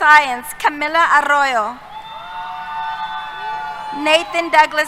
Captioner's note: cheers